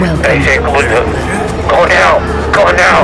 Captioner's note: radio chatter